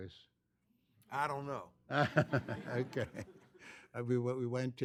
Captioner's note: laughter